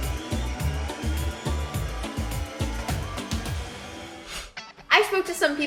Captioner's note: car engine revs